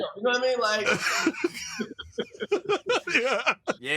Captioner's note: laughter